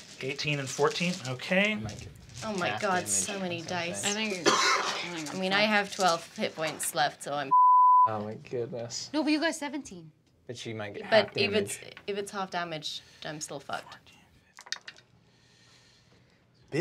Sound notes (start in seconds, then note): 2.1 speaks softly; 7.5 beep